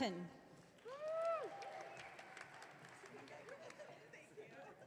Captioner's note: audience cheering